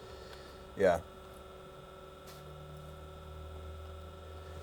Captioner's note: machine hums